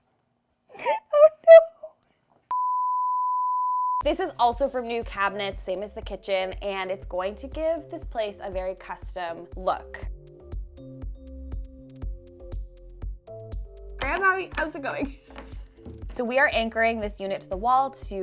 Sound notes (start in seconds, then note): 2.6 standby beeps